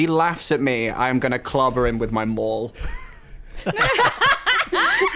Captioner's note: laughing